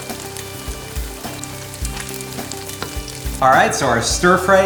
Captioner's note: food sizzling